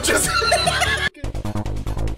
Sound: laughter

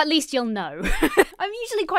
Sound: laughs

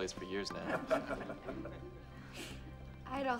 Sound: group chuckles

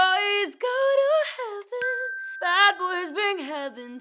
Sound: bell dinging

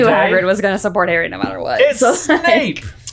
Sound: laughs

